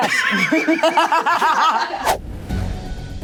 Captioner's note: all laugh; serious music